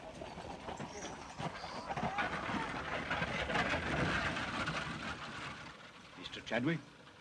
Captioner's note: carriage rattles away